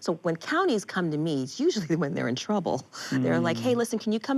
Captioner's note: chuckles